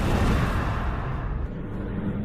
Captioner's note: whoosh